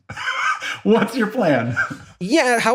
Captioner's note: laugh